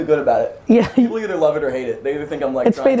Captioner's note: laughs